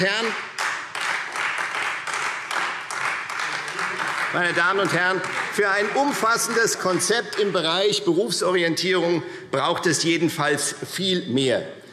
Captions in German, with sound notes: Nichts anderes ist es, ein Fake-Fach. [Beifall Freie Demokraten] Meine Damen und Herren, für ein umfassendes Konzept im Bereich Berufsorientierung braucht es jedenfalls viel mehr.